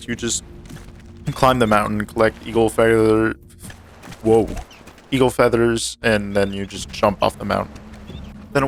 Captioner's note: sutters